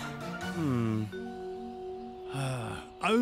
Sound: sighing; with Australian accent

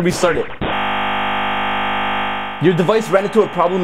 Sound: buzzing sounds

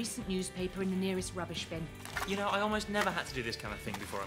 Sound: rustling

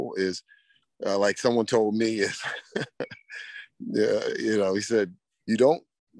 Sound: laughs

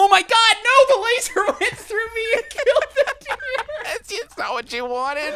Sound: laughing

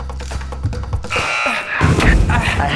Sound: buzzer

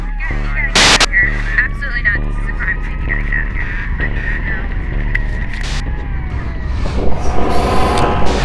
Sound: voices and sirens; police radio voices

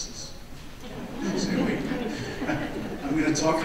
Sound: audience laughs

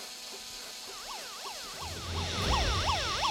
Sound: sirens

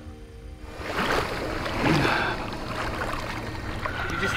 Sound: water splashes

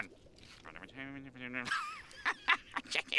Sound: mumbling, laughing; chuckles

